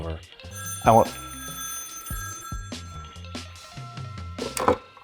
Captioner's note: phone ringing